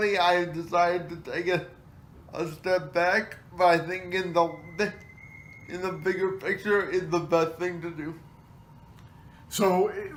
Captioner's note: whistle of tea kettle